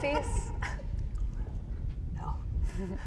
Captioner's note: woman laughs